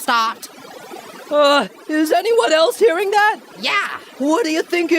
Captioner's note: static noise appears in the distance